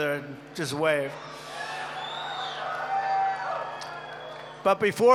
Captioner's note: applause